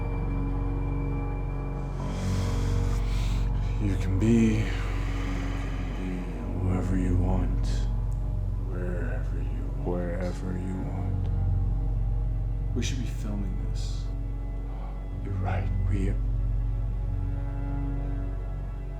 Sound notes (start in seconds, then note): 1.6 slow breathing